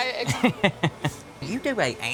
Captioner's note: laughing